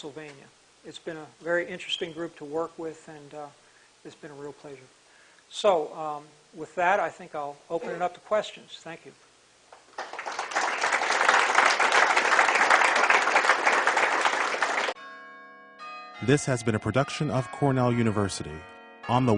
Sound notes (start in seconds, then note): 9.8 applause